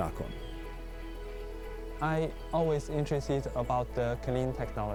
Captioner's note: speaking Chinese